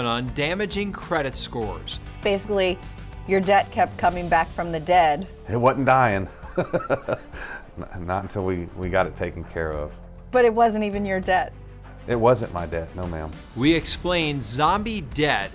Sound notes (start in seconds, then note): 6.4 chuckles